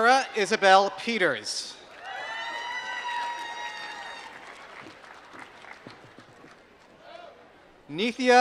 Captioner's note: applause